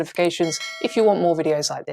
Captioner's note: bell ringing